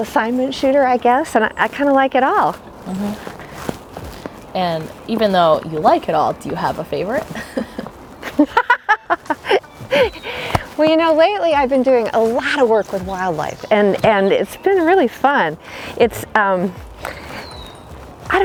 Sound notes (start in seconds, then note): 8.2 laughs